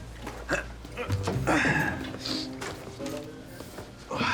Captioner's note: Nicolas grunts